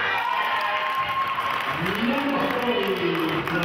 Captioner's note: cheering and clapping